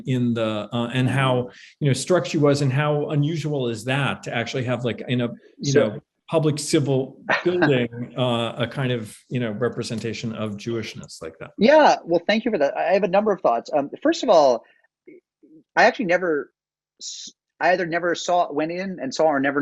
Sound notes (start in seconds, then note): 7.4 laughs